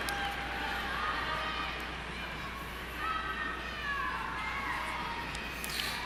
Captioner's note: cheering